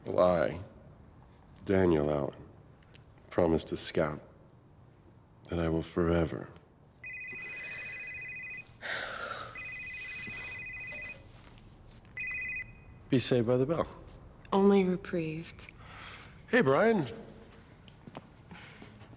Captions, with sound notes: - I, Daniel Allen, promise to Scout that I will forever-- (phone ringing) Be saved by the bell. - Only reprieved. - Hey, Bryan.